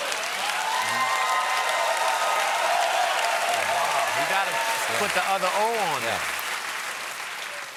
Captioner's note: cheers and applause